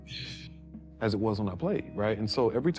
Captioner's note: scoffs